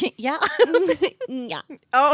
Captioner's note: laughing